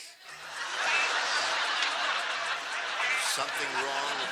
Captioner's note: laughter